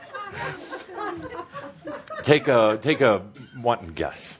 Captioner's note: laughter